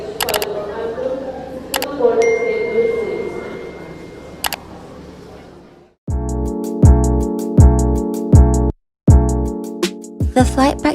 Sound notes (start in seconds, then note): 0.0 airport Intercom + Typing & Clicking; 2.2 notification Bell